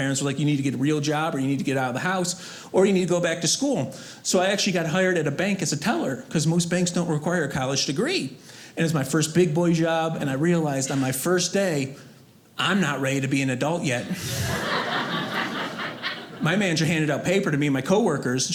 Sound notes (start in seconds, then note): 14.0 audience laughing